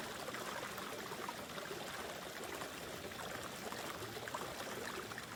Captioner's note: water gushing continues